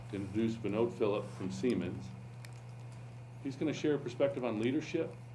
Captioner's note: none